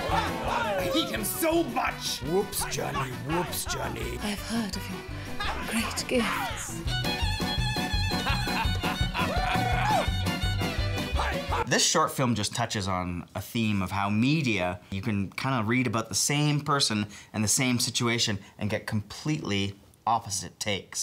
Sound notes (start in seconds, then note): 7.8 laughing